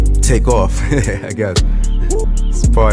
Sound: laughs

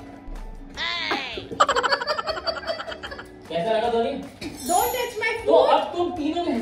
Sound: laughter

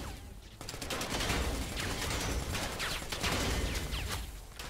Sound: guns firing

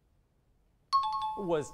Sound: timer bell

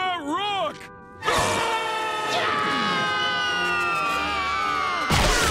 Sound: screaming

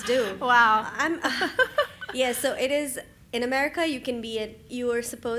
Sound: laugh

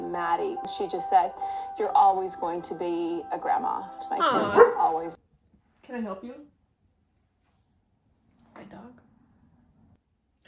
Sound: rude barking

